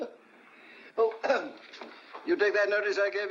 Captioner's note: laughing; clears throat